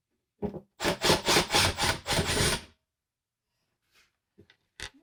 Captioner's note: drill whirring